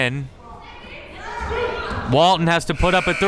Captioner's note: crowd members shouting